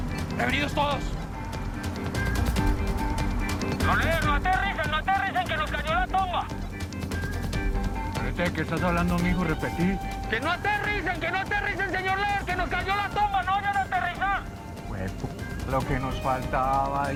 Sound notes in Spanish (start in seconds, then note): 3.7 Voz en la radio